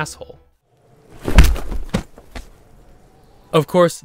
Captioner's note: thud